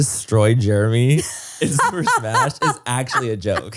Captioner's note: laughs